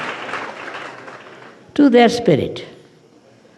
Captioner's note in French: rires et applaudissements